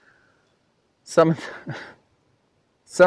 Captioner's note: laughs